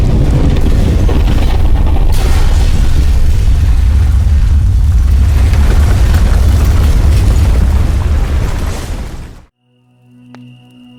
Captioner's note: VERY LOUD Explosion; breaking Sounds